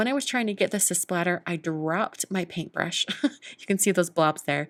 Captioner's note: chuckles